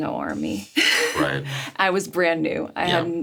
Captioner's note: Sarah laughs